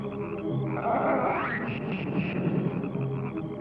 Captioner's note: croaking